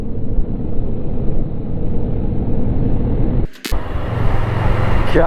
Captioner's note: highway traffic